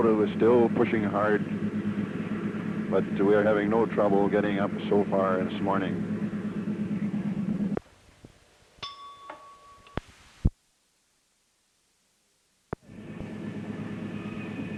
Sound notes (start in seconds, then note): 8.8 bell Sound; 13.1 sound of train moving